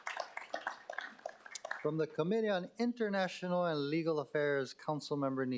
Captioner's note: applause